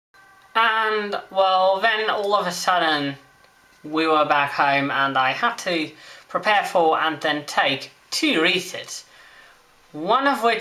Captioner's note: siren